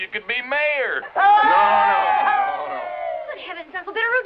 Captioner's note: crowd cheering